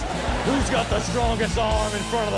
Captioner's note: audience laughs